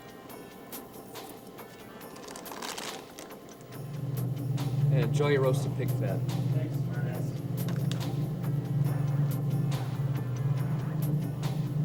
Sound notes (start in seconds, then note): 1.6 bag rustles; 9.0 tense music